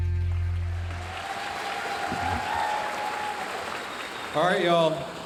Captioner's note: audience cheering and applauding